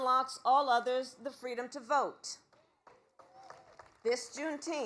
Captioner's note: applause